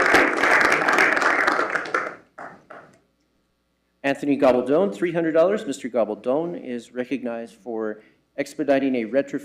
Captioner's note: applause